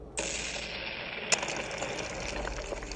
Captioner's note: cannon Blast